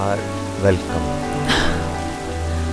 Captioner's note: Gauravi exhales